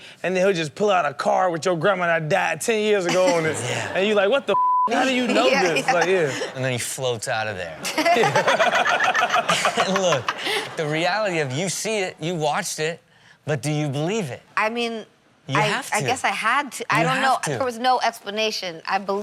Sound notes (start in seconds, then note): 4.5 beep; 7.8 all laugh